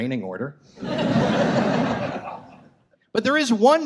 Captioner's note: audience laughs